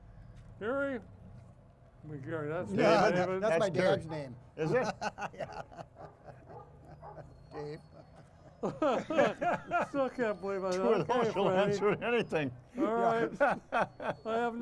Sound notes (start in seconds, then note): 5.2 laughs; 5.4 dog barking; 8.0 hosts laughing; 12.7 laughs